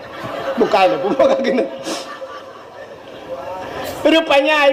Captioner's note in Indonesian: tertawa